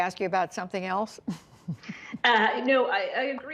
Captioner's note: laughter